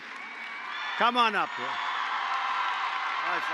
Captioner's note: applause